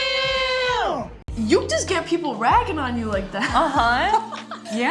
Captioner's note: laughs